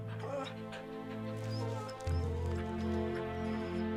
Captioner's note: Buck whines